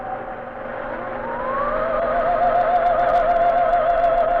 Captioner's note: camera whirring